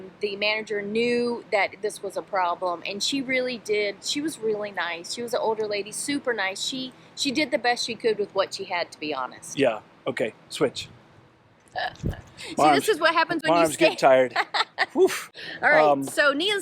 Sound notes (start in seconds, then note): 11.8 laughing; 14.9 exclaims